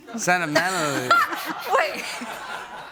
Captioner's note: laughs; laughter